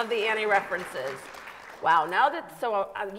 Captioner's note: audience applauds